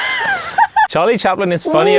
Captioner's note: everyone laughs